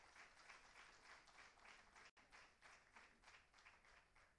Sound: applause

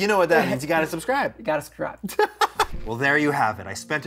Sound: chuckles

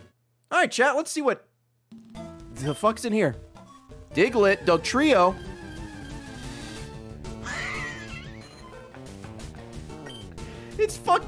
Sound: laughs

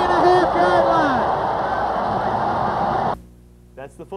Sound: crowd Cheers

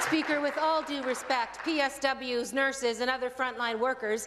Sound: applause

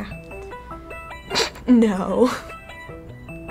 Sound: snickers

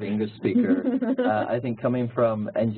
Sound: laugh

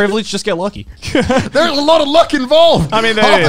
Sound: laughing

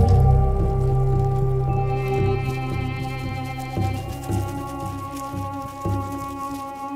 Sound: light dramatic music; sand rustling

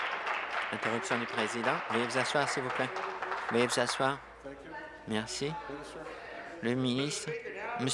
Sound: applause

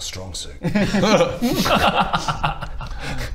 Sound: overconfident giggles

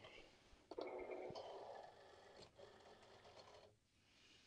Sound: Cricut whirring

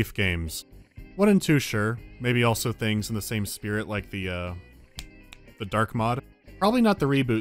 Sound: snap, snap

